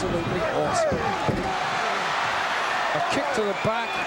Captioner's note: audience cheering